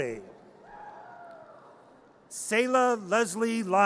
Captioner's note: audience cheers